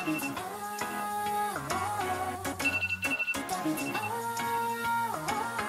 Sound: wakes up to the alarm bell

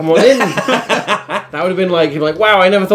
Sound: laughing

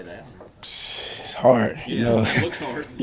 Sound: laughs

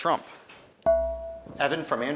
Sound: ding

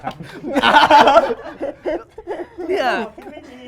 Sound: laughs

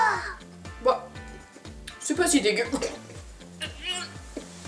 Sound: pukes

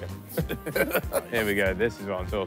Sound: laughing

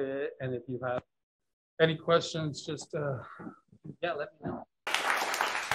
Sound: clapping

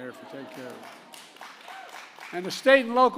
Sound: applause

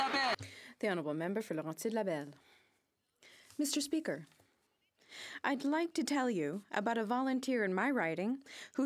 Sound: some Applause

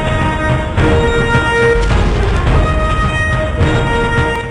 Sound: explosion

